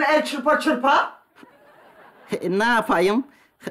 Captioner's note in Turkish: Gülme efekti